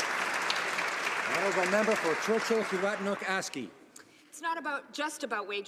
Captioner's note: some Applause